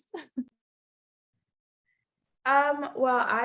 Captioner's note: laughing